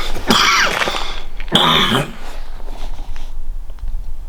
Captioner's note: coughing